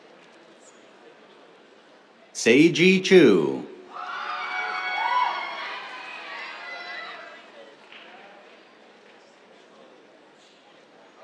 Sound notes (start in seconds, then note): 3.9 cheers, applause